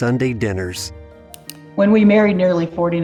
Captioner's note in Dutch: muisklik